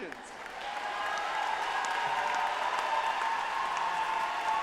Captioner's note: audience applauding